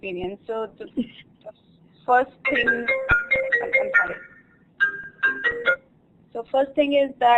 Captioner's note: phone ringing